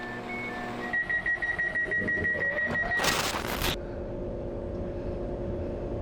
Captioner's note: doors beeping